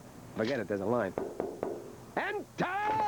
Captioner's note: knocking